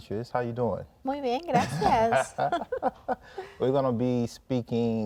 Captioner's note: speaking in Spanish